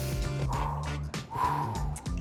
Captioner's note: sighs